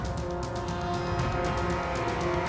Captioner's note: none